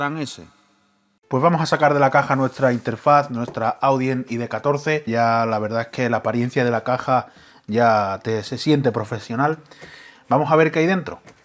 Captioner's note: spanish